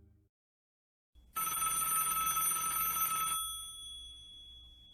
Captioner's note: telephone Ring